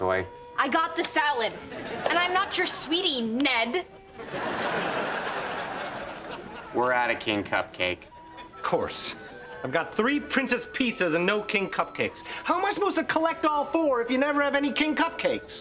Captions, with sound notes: I got the salad. And I'm not your sweetie, Ned. [laughing] We're out of King Cupcake. Of course. I've got three Princess Pizzas and no King Cupcakes. How am I supposed to collect all four if you never have any King Cupcakes?